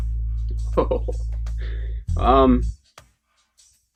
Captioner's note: laughs